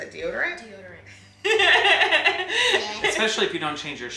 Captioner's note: laughs